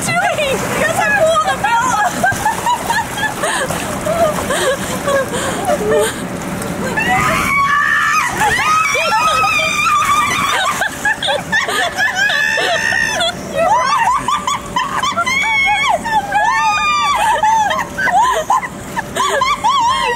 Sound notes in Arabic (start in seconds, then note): 0.9 المرأة تضحك; 6.9 المرأة تصرخ; 11.2 المرأة تضحك